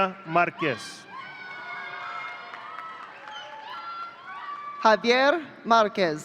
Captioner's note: audience cheering